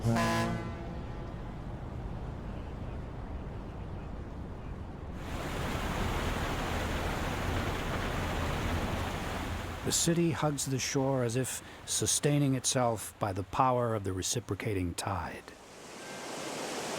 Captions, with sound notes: (ferry horn honking) (splashing water) The city hugs the shore as if sustaining itself by the power of the reciprocating tide.